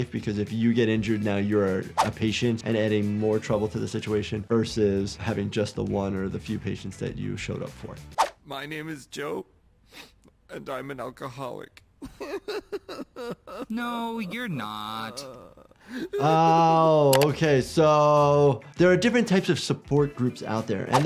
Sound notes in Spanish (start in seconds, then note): 12.0 sollozos; 16.1 Joe sollozando